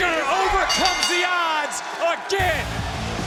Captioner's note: bell rings